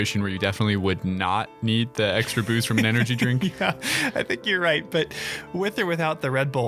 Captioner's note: laughing